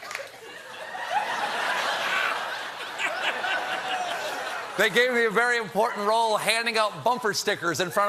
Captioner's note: cheers; laughter